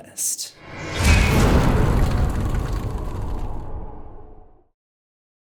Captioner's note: impact